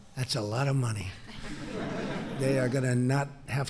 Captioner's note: laughter